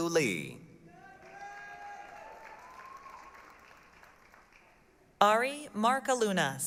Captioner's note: applause, cheering